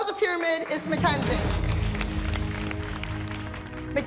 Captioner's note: clapping